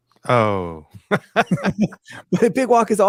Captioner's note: laughs